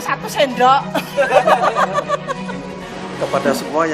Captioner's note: laughs